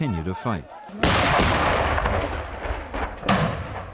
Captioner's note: explosions